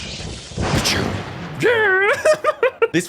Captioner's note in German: p-chrrrr